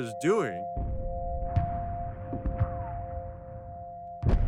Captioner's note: bombs falling